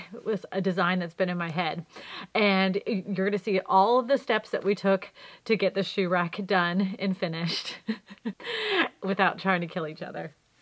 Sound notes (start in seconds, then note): 7.5 laugh